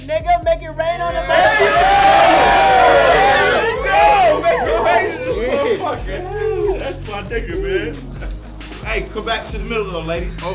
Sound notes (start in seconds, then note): 2.8 cheering